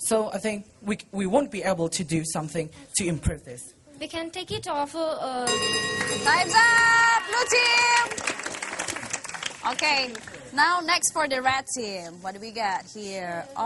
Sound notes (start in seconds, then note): 5.4 bell